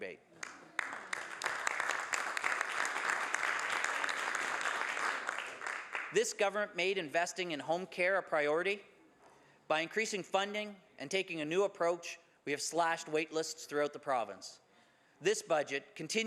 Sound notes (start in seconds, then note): 7.3 some Applause